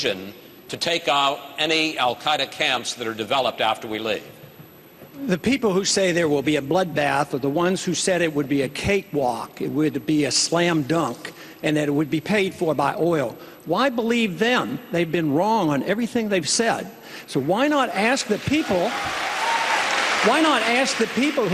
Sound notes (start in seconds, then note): 18.3 cheers